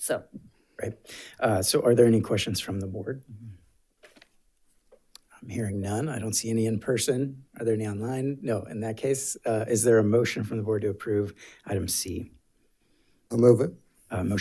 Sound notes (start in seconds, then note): 4.0 paper rustling